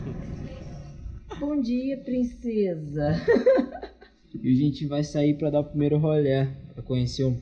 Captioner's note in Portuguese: risos